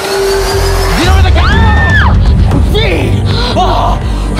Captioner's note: screaming